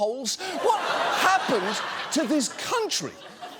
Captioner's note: audience laughs